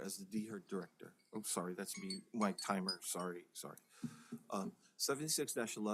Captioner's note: counsel's personal timer goes off